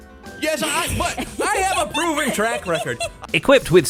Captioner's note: giggles